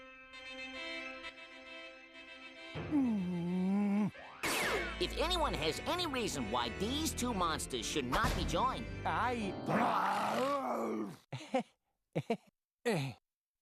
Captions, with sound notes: [grunting] IF ANYONE HAS ANY REASON WHY THESE TWO MONSTERS SHOULD NOT BE JOINED... [both growling] [laughing nervously]